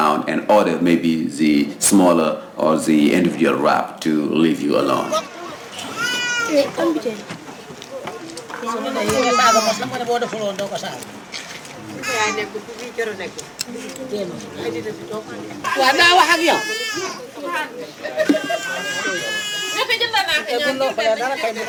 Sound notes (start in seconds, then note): 6.4 speaking in foreign language; 8.6 baby crying